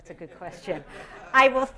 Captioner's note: laughter